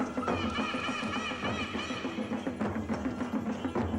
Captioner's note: graznidos; música con tambores